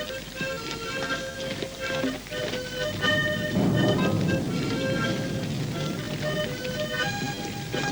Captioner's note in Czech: v dálce hřmí výbuchy z fronty